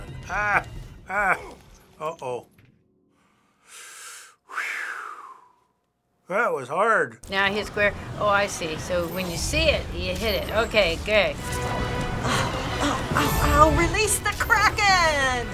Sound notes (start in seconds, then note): 3.1 takes deep breath